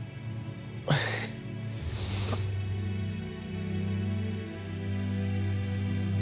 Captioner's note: titters, then sniffles